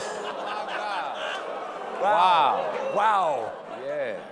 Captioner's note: audience reacts